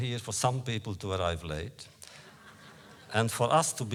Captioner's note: laughter